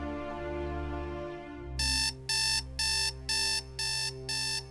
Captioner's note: alarm beeping